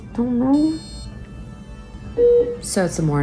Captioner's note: machine beeping